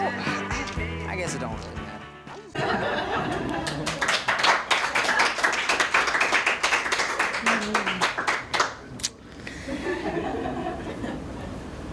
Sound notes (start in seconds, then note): 2.5 laughter; 3.3 applause